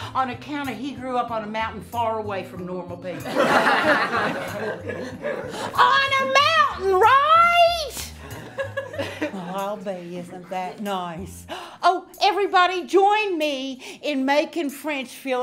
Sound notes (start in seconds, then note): 3.2 class laughing